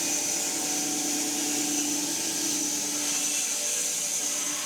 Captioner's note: mill whirring